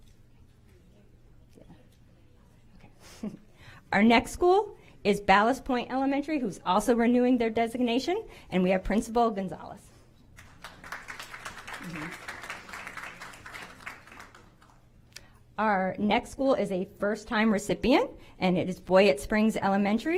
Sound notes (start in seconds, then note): 6.2 applause